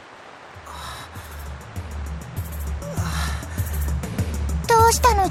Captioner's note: labored breathing